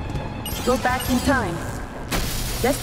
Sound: suspenseful music; robot voice

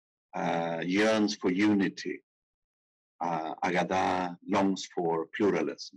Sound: speaking in foreign language; speaking in foreign language

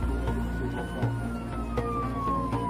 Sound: siren

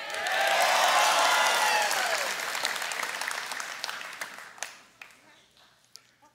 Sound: congregation cheering and applauding

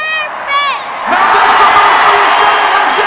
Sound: crowd cheering

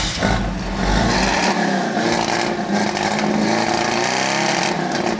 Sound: engine starts

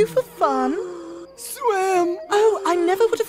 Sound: struggling to breathe

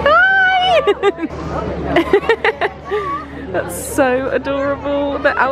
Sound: laughing

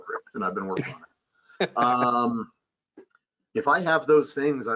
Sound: laughing

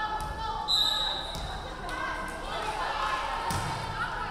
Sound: referee whistling

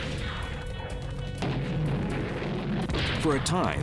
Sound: explosions

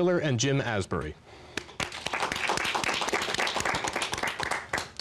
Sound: applause

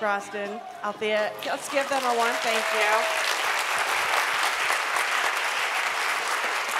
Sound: applause

